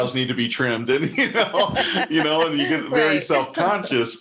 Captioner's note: laughs